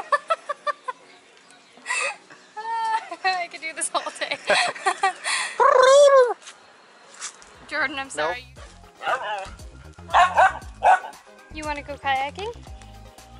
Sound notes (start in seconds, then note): 0.0 laughter; 3.9 laughter; 5.6 gobbling; 10.0 Laska barking